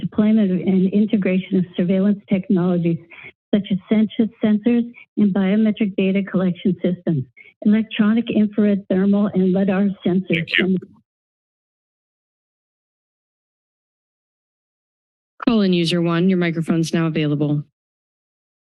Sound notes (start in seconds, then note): 11.3 silence; 18.0 silence